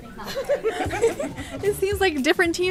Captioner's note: both laugh